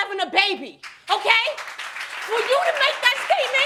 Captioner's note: audience applauds